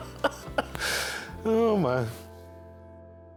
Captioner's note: laughs; sighs